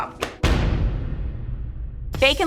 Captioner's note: video booming